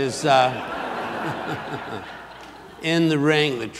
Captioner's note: audience laughs